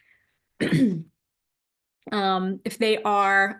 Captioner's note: clears throat